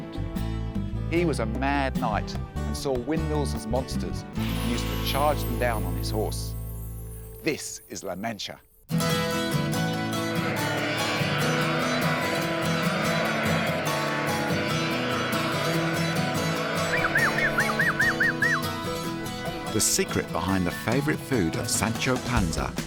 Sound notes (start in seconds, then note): 16.7 whistles